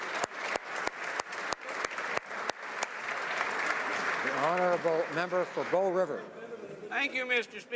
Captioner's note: applause